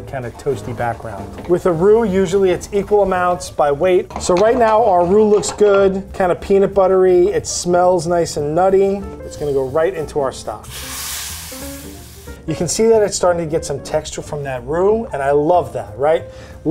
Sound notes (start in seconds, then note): 10.8 liquid sizzling